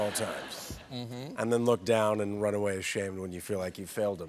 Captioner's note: laughter